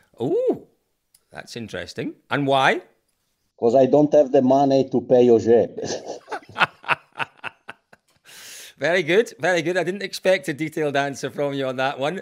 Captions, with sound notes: Oo, that’s interesting. And why? Because I don’t have the money to pay Ogier. [laughing] Very good, very good. I didn't expect a detailed answer from you on that one.